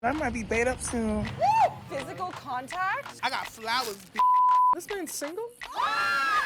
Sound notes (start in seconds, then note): 4.1 beep; 5.7 screaming